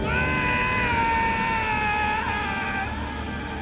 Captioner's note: yelling